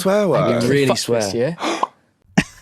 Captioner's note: gasp